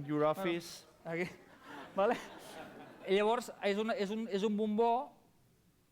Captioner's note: non-english speech